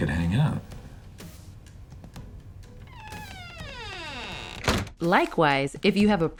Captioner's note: wordlessly creaks door shut